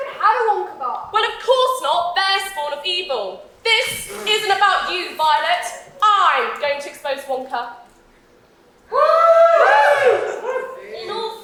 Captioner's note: audience cheers